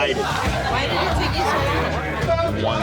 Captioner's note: customers chatting